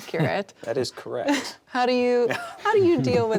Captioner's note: chuckles